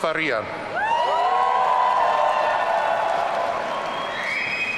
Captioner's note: audience cheering